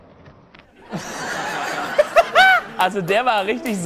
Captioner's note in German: Gelächter